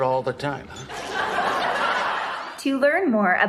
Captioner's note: laugh track